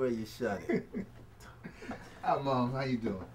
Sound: Marcus laughs

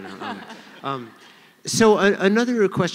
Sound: laughter

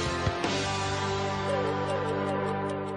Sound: clock ticking

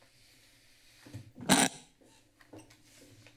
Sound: screeching noise

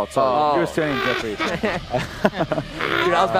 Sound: laughs

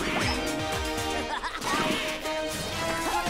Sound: laughing

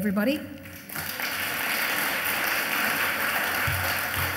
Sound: audience applauds

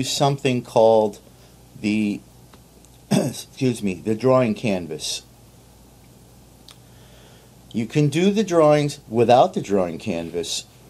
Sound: caugh

